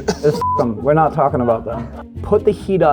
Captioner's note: beeps